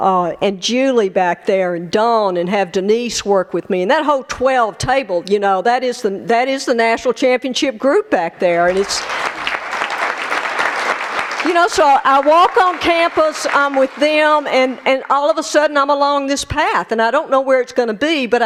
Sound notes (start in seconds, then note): 8.6 applause